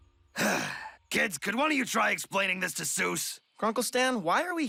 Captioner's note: sighs